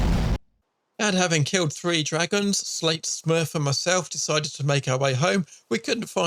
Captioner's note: voiceover